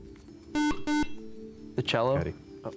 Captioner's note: buzzer